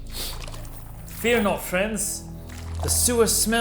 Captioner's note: sniffing